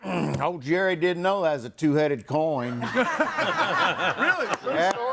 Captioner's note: group laughs